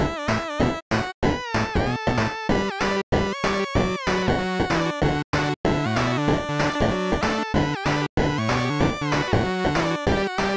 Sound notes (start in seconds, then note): none